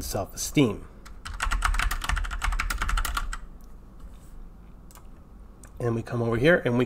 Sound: keyboard clicking

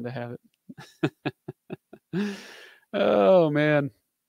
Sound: laughing

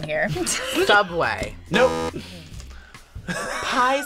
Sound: laughs; laughs

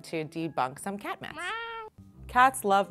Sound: meow

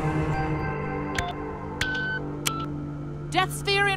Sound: controls beep

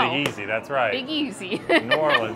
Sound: laughs

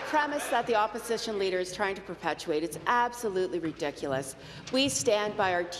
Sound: applause

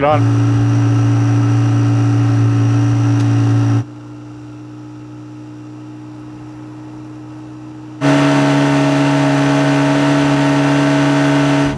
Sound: boat engine humming

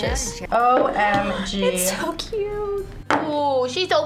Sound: gasps

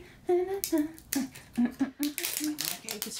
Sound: drink plastic rumbling

